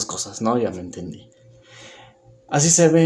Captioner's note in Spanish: Silencio